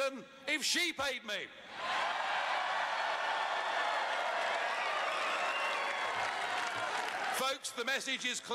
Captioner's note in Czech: Potlesk